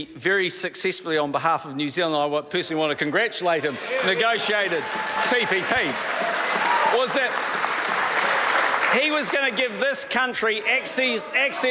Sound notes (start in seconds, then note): 6.6 members applaud